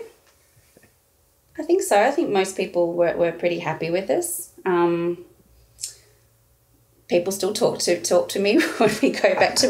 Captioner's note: both laughing